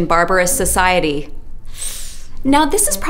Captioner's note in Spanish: Inhala